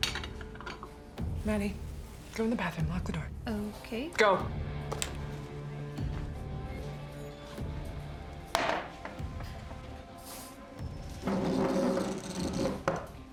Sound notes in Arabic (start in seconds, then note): 5.5 موسيقى متوترة; 7.4 أصوات الزجاجة